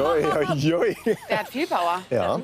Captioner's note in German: Lachen